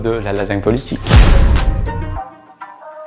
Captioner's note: boom